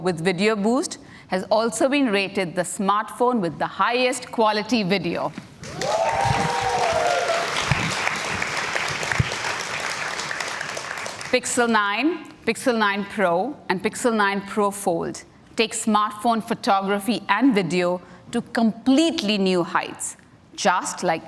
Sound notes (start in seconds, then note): 5.6 cheers and Applause